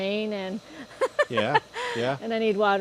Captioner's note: laughs